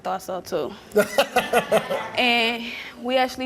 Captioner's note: Steve laughing